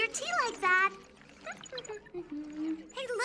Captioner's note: tachikoma humming